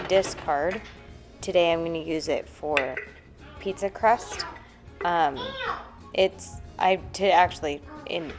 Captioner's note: stumbling on words